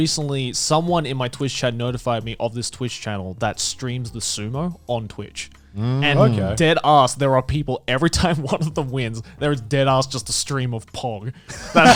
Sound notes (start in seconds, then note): 5.8 affirmative murmuring; 11.4 Garnt laughing